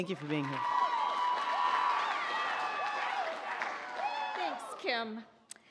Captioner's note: audience applauds and cheers